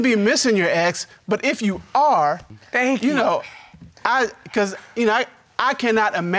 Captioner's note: stutters